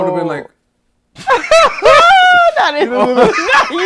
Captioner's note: laughter